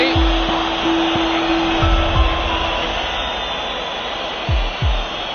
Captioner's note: crowd whistling